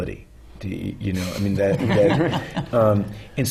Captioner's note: laughter